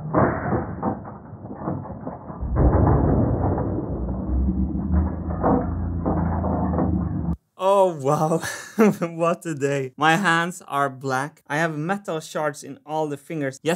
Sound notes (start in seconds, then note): 8.4 chuckles